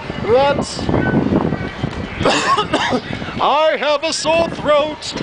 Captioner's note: coughwheezhack